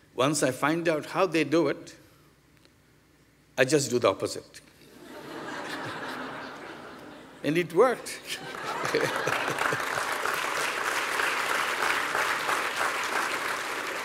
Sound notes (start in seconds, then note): 8.4 applause